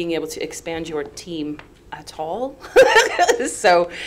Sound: laughs

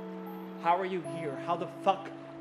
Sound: voiceover

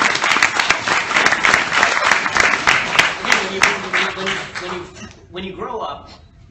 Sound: applause

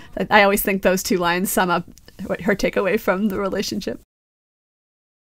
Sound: none

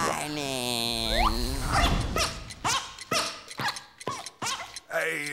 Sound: squeaking

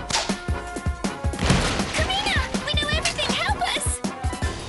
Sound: crash

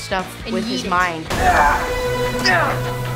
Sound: grunting

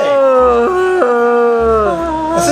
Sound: Mummy squeals

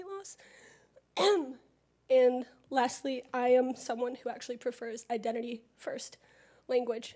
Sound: cough

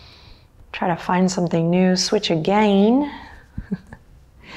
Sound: chuckles

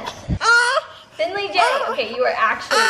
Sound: laughs; baby gibberish

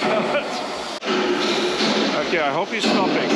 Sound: laughs; loud banging

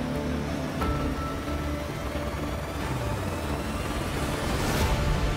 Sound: blades whirring

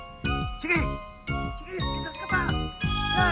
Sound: all cheering

